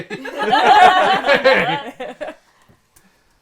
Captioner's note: laughter